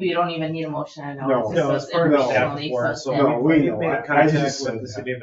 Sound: people chatter

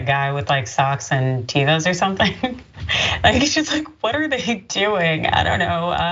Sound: laugh

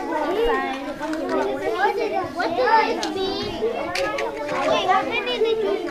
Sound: students chattering

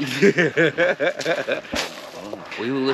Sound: Ron laughing

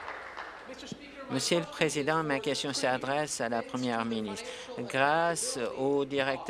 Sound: applause

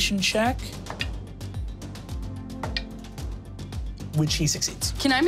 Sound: dice tapping table

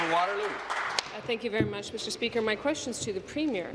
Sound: applause

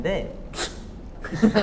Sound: laughing at him

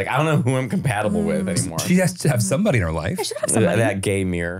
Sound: laughing

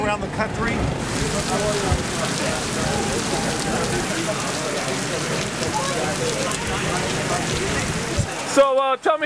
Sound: sounds from a downpour of rain

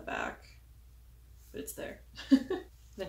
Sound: laughs

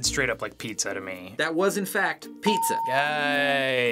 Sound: ding

